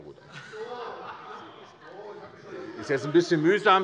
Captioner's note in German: Lachen : Ach so, ich habe mich schon gewundert!